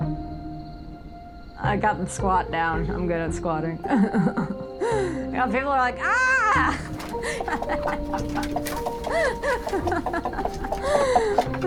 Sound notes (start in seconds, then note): 6.5 laughing